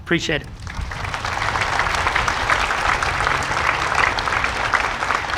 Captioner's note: audience applauding